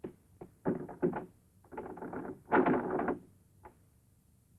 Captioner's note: door clacking